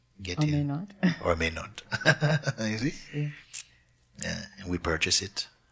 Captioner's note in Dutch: lacht